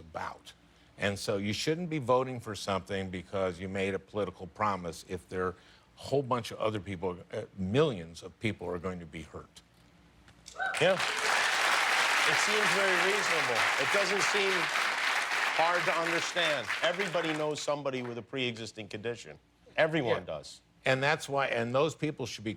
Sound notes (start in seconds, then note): 10.6 cheers and applause